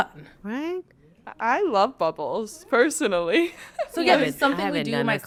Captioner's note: laughs